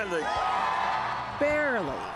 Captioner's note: cheers, applause